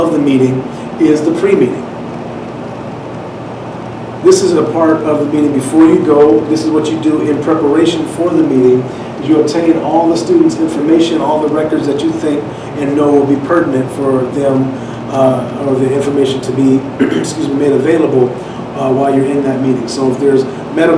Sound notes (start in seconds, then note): 17.0 clears throat